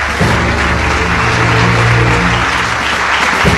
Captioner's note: cheers and applause